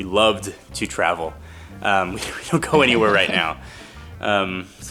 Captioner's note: chuckling